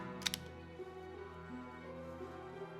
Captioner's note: gun cocks